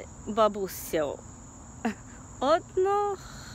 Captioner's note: Chuckle!